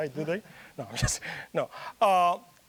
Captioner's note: chuckling